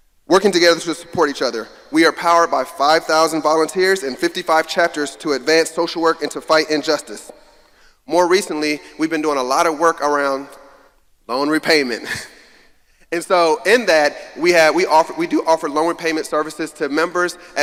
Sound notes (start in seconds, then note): 12.3 laughs